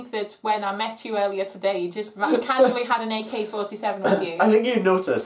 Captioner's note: laughs